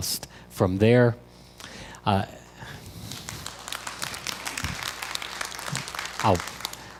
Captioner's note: crowd applause